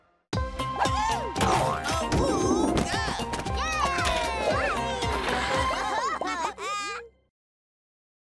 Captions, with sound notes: - Woo-hoo! - Awooga! - Yay! (laughing)